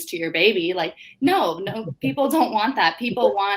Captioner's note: laughs